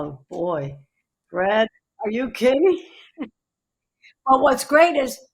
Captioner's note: chuckles